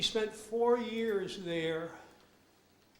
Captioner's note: none